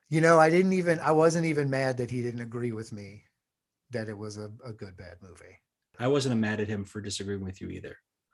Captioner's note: none